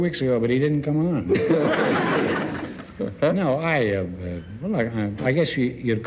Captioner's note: audience laughs